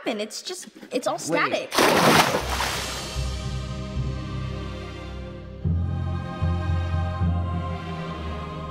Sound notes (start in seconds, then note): 1.7 water splashes; 2.4 epic music